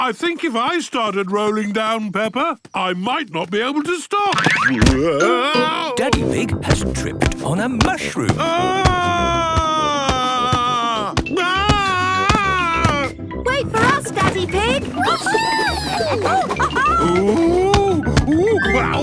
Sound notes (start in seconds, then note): 8.3 shouting; 16.3 laughing